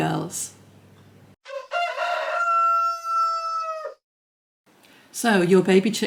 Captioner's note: cockerel crowing